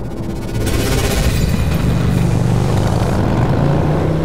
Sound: motorcycle engine; electricity

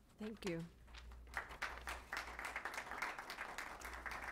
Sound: applause

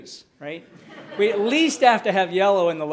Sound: audience laughing

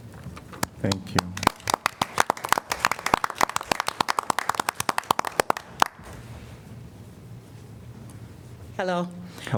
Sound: applause

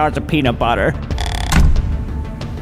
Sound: door slam

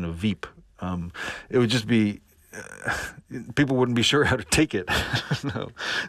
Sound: laughter

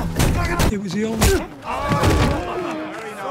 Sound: cheering

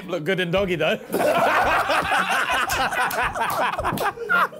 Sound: laughing

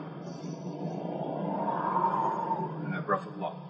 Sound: exhale; inhale

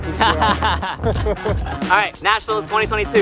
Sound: men laughing

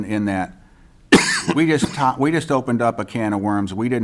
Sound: coughing

